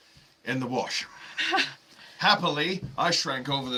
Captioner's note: giggling